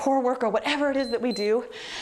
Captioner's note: timer beeps